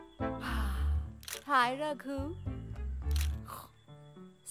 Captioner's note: Camera shutter clicks